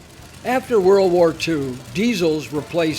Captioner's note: voiceover